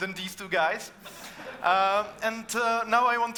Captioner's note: audience laughing